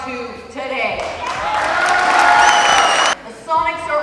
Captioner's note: cheering